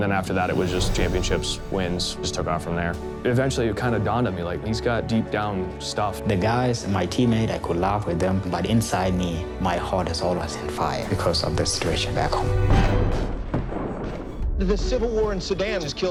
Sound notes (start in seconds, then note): 11.8 explosive fire